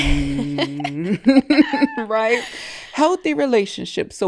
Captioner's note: both laughing